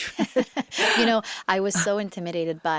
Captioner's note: interviewer and Zoe laugh